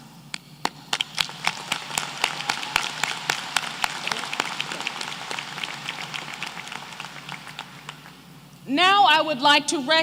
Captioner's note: applause